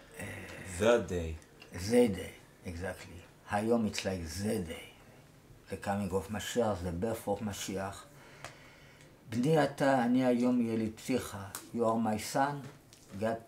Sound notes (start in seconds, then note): 10.5 in Hebrew